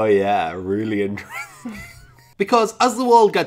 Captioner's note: laughs